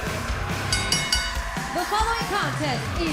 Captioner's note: bell ringing